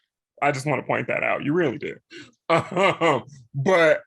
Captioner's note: laughs